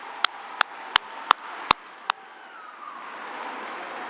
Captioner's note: applause